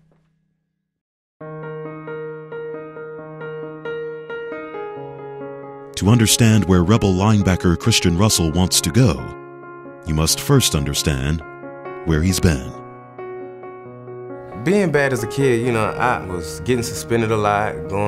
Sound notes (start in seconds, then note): 1.6 soft piano music; 6.0 voiceover